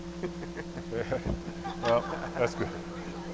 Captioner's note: laughing